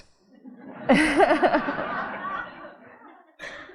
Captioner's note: audience laughing